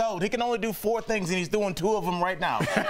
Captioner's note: laughter